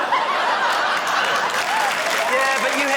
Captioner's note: laughter, applause